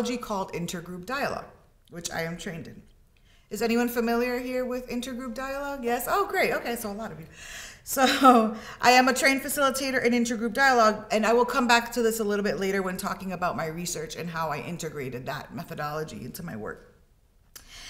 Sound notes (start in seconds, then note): 8.1 chuckles